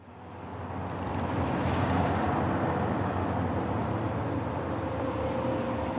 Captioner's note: air whooshing; soft music